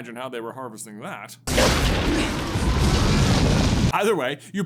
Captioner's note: loud firey explodey boomy noises